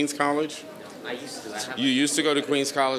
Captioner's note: speaking faintly